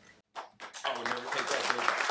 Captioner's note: audience claps